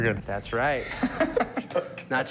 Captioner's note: laughter